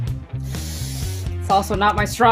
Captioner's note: inhales loudly